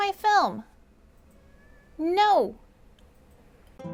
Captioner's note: meow